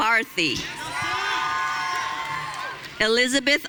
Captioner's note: audience cheering